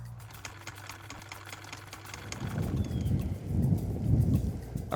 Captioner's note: sewing machine clicks